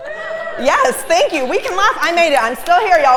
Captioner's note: laugh